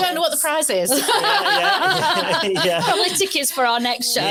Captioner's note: audience laughs